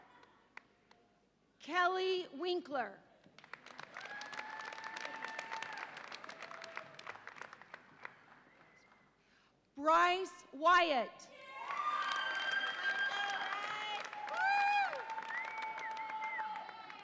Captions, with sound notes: Kelly Winkler. (audience applauds and cheers) Bryce Wyatt. (audience applauds and cheers)